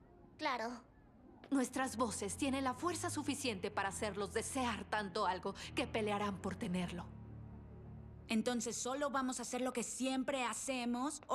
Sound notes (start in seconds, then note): none